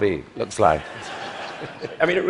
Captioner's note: laughter